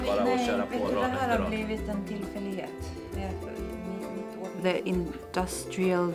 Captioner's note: conversing in native language